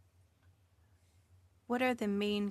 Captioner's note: speaking French